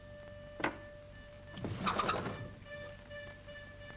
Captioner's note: window slides open